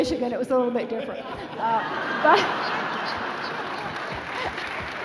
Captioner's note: laughing